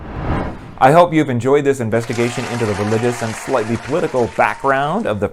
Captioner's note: applause